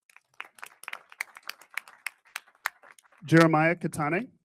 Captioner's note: audience applauding